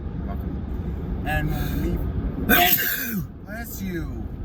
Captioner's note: sneezes again